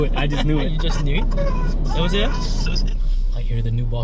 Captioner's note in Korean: 받자마자 들리는 남주 울음소리